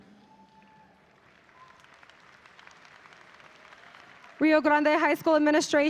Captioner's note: audience applauding